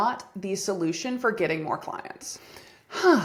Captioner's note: sigh